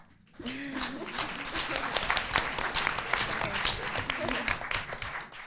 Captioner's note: audience applauding